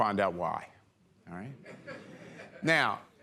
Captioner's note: laughter